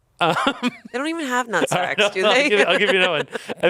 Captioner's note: laughs